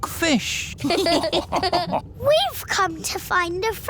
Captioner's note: all laughing